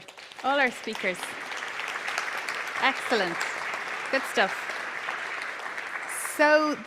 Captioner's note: applause